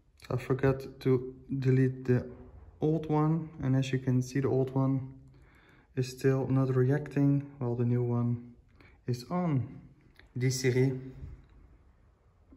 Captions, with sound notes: I forgot to delete the old one and as you can see the old one is still not reacting while the new one is on Hey Siri (in french)